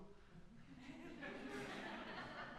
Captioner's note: laughs